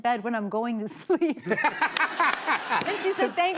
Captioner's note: laughter